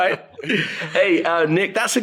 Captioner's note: laughs